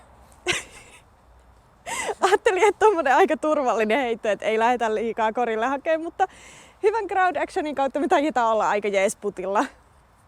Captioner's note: laughs